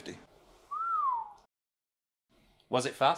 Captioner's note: whistles